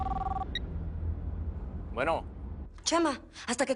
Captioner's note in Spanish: Suena el celular